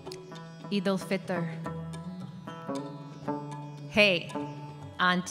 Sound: speaks in foreign language

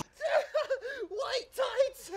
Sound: Tingle laughs

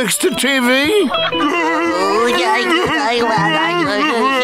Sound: babbling

